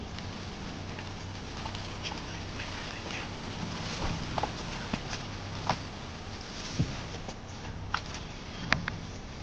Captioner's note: whispering